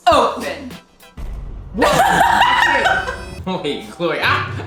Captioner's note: glass breaking; laughing